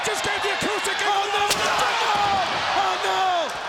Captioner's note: guitar slams